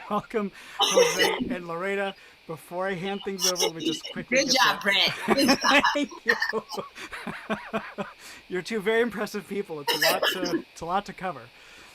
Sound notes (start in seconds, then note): 6.5 laughing